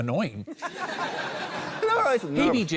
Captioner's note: laughter